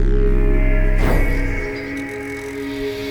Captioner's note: puff